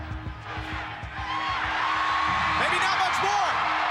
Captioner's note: crowd cheers